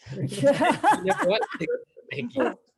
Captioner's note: laughing